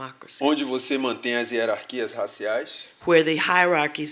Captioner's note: speaking portuguese